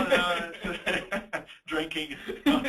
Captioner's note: both laughing; laughing